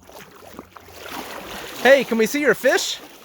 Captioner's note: water splashing